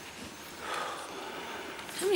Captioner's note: sighs